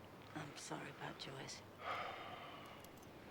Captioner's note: sighs